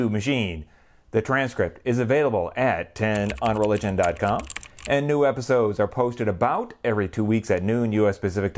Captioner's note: typing